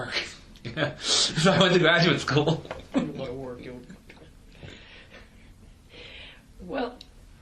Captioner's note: chuckling